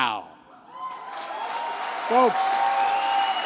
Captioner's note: applause